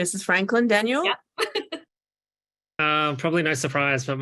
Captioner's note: laughing